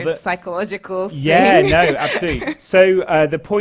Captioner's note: laugh